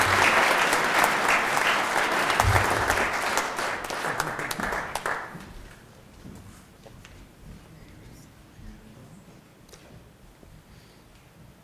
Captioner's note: applause